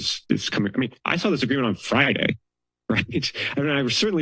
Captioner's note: laugh